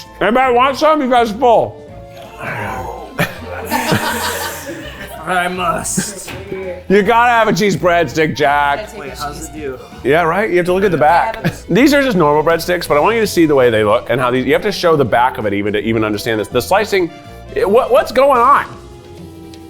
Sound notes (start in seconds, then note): 2.1 everyone groans; 3.1 everyone laughs